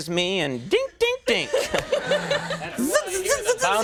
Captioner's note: Jennifer laughs